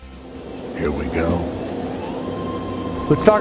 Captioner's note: rapid transit train sounds